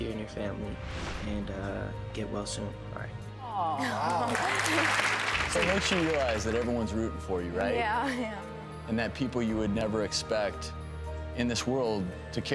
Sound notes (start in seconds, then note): 3.9 audience applauds